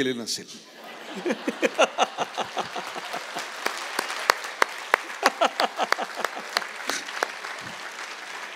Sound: applause

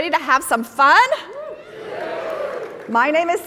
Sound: audience cheering

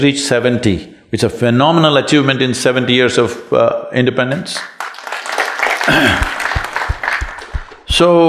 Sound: applause

